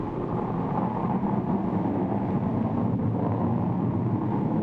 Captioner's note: rocket roaring